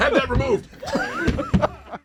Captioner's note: laughter